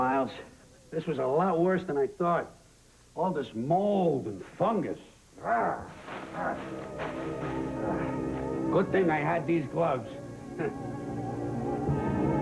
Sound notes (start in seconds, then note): 5.4 growling